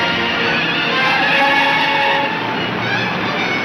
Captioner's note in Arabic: اصوات صرير الاطارات